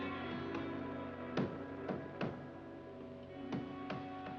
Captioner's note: banging